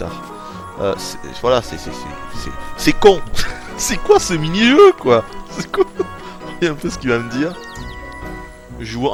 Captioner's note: giggles